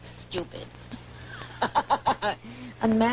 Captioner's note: laughter continues